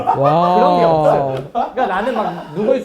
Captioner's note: sighs